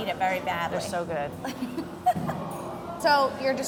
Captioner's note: laughs